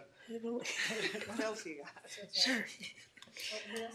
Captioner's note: laughing